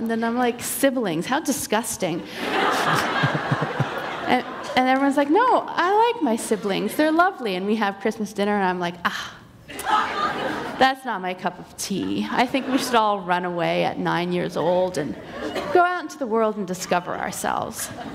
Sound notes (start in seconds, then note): 2.3 laughter